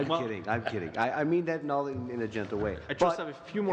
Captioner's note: laughter